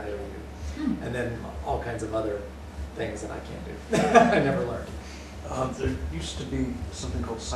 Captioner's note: laughter